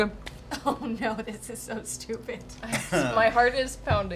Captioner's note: laughing